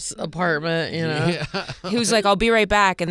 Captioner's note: laughing